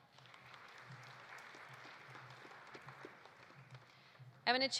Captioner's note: audience applauding